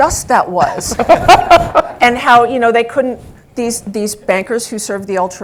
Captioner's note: laugh